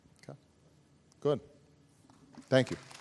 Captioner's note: applause